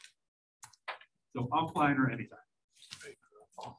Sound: speaking away from mic

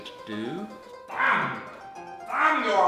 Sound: shrieking

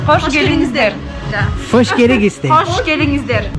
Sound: in Kyrgyzstan language

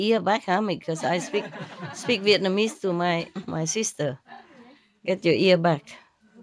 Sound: Vietnamese

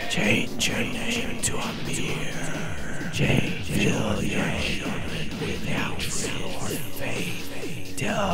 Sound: demonic hissing trickery

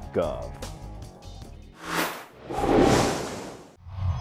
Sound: sound Effects

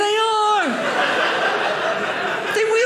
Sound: audience laughing

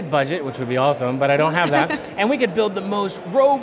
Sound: laughing

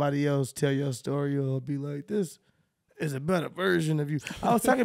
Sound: laughing

